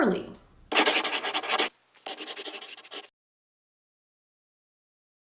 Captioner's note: scribbling